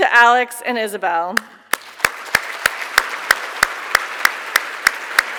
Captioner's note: audience clapping